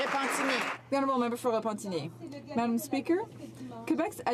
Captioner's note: some Applause